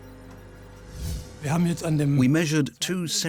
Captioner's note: speaking German